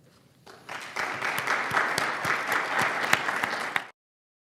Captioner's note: audience applauds